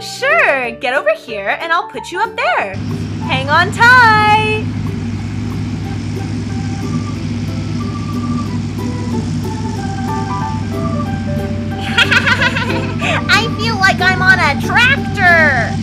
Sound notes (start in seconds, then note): 4.8 engine sounds; 11.8 laughs